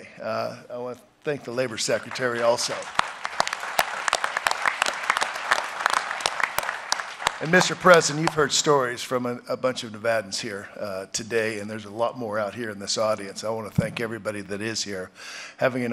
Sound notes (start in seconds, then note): 1.8 applause